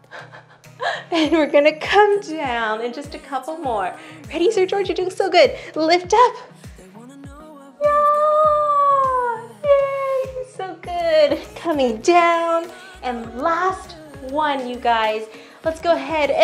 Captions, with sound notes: (laughing) And we're gonna come down and just a couple more. Ready Sir George? You're doing so good. Lift up, (wailing) good, so good. coming down, and last one, you guys, let's go ahead